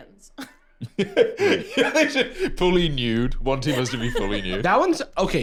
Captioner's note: laughs